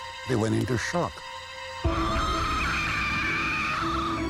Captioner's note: shrieking